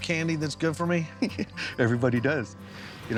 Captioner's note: chuckling